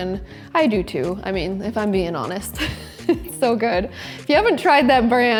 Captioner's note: laughs